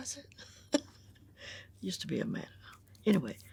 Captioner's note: chuckles